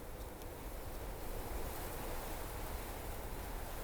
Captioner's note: foliage rustles in the wind